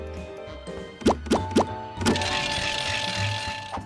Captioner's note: bell ringing